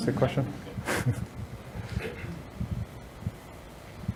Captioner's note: audience laughs